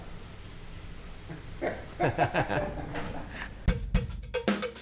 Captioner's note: all chuckling; upbeat percussive music